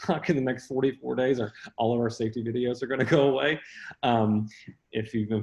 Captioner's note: laughs